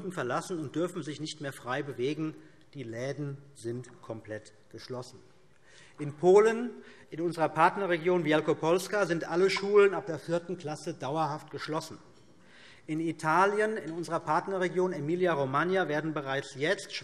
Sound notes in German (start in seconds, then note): none